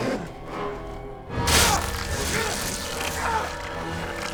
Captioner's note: enraged grunts